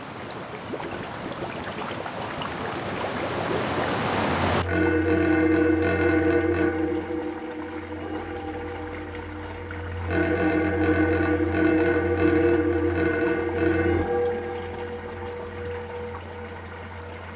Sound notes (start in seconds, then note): 0.1 bubbling; 4.6 vibrating metal sound